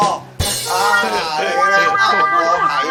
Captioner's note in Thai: เสียงเอฟเฟกต์